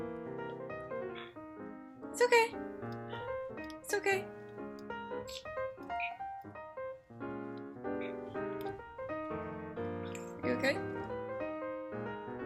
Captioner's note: grunting and squeaking